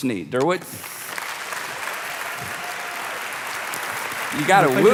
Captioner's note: applauding